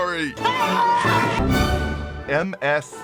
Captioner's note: operating System Yells “OAHHH!!!”